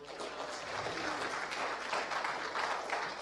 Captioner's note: applause